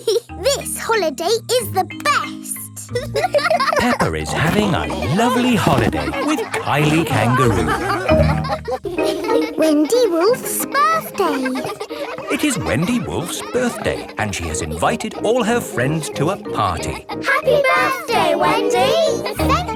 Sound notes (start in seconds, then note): 0.2 giggles; 3.1 laughing; 8.1 all laughing; 12.1 kids laughing